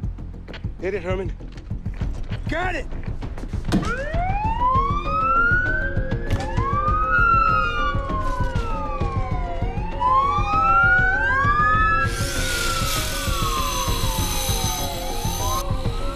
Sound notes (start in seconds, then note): 0.0 tense music; 3.1 sirens wailing; 12.0 grinder whirring